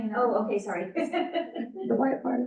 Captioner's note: laughs